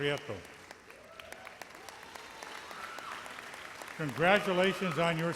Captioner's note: audience applauds